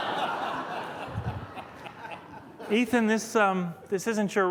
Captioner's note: laughter